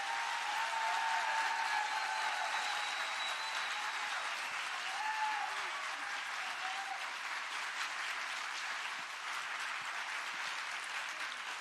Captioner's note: claps with cheer